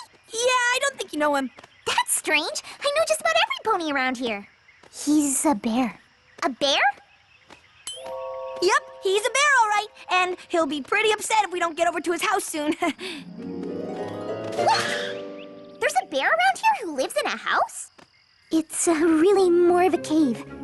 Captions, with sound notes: Yeah. I don't think you know him. That's strange. I know just about everypony around here. He's...a bear. A bear? [ Tink! ] Yep. He's a bear, all right. And he'll be pretty upset If we don't get over to his house soon. [ Chuckles ] Wait! [ Screech! ] There's a bear around here who lives in a house? It's, uh, really more of a cave.